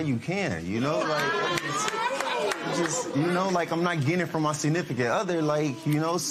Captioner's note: spectators murmuring